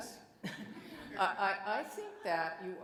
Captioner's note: audience laughs